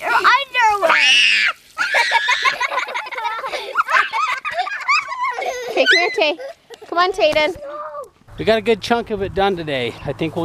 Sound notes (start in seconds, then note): 0.7 children laugh; 1.1 screams